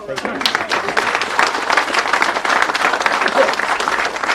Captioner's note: people applauding